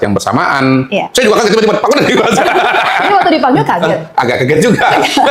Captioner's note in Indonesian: tertawa